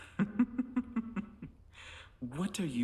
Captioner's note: Hindley laughing